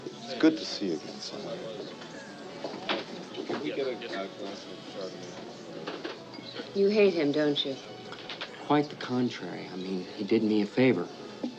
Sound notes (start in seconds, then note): none